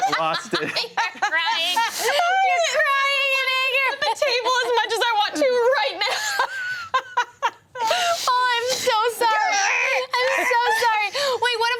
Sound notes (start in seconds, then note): 7.4 everyone laughs